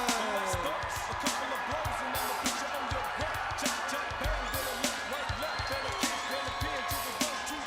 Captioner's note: crowd cheering